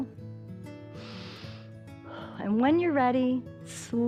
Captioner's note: inhales and exhales